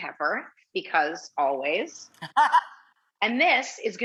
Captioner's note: chuckles